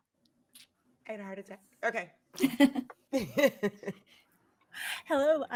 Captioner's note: laughs